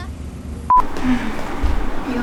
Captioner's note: beep